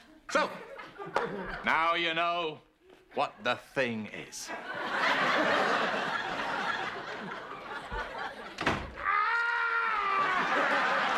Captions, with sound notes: So, now you know, what the thing is. ( door shuts ) ( Niles screaming )